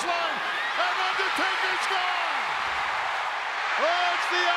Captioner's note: crowd cheers